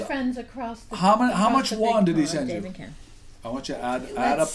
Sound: voiceover

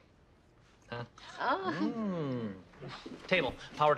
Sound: group goes ooh

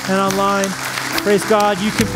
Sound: applause

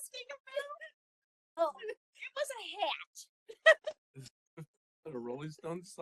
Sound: laughing; laughing

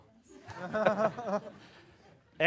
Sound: laughter

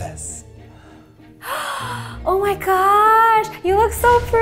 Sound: gasps

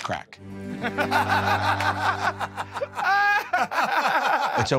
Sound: Murr and Q laughing

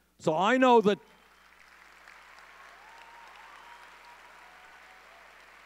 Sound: audience cheering

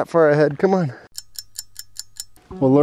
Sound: clock ticking

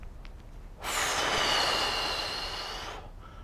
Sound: exhales

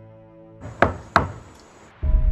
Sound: knocking

